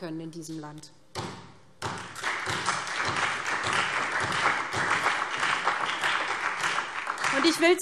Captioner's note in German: Beifall SPD, vereinzelt CDU, BÜNDNIS 90/DIE GRÜNEN und Freie Demokraten